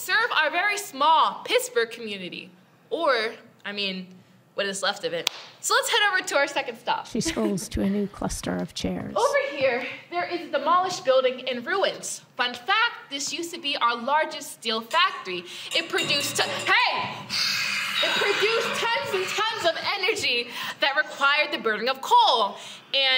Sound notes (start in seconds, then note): 15.3 metal clanging and heavy breathing